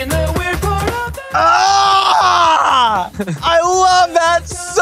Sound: chuckles

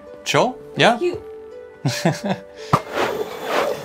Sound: laughs; playful instrumental

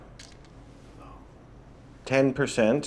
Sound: whispers

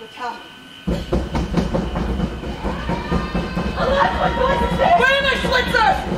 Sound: knocking and shouting

